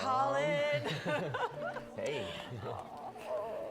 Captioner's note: Risas